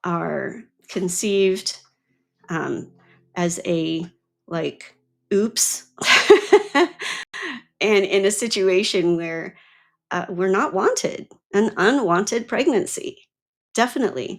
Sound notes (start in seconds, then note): 6.0 laughs